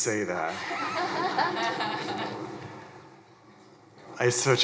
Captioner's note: crowd chuckling